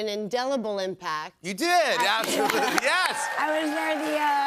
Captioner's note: cheers and applause